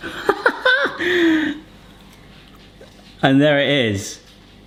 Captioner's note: laughing